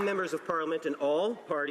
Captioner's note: some Applause